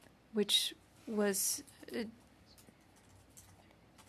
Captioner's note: speaking French